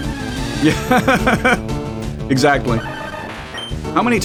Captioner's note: laughs